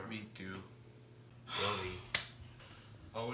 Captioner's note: sighs